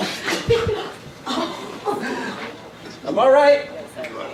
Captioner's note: ladies laughing